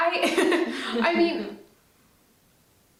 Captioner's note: laughs